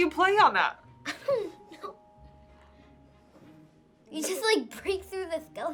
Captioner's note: laughs